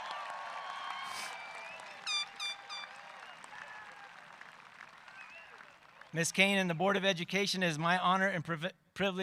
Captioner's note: cheering and applause